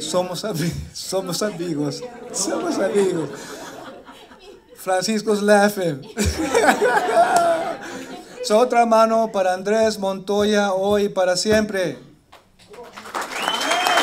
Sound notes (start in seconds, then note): 6.0 laughs; 8.6 laughter; 12.3 applause